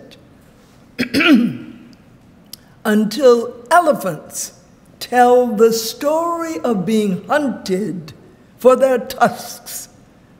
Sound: clears throat

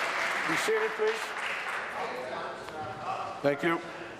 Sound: some Applause

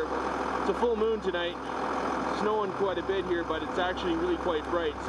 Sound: voiceover

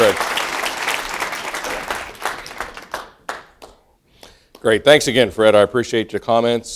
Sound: applause

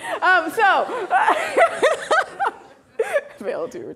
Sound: laughing

